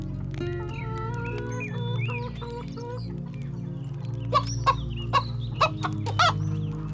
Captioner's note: light guitar music; chicken clucking; light guitar music